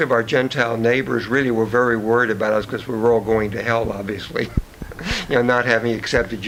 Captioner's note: chuckles